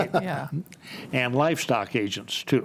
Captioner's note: laughs